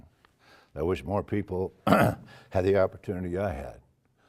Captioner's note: cough